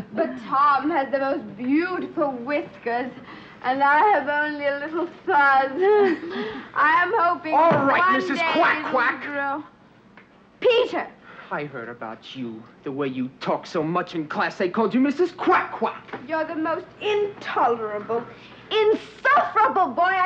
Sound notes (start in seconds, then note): 5.8 giggles